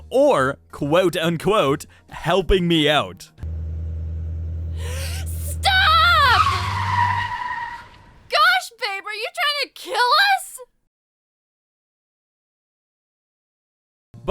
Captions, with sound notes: or quote unquote, “helping me out.” *GASPS LOUDLY* STOP!!! Gosh babe, are you trying to KILL US?!?